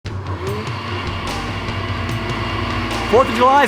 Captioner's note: blender blending